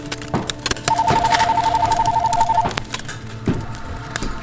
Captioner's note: sounds of footsteps approaching